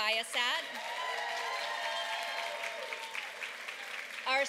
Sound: applause

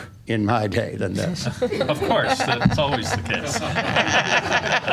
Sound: laughing

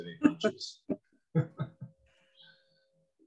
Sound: laughter

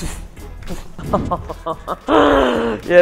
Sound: laughs

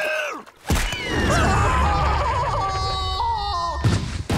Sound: neighing; screaming

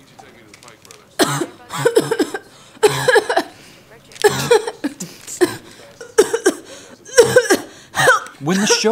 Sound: barking cough and choking sounds

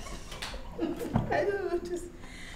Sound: laughs

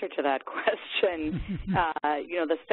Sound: laughing

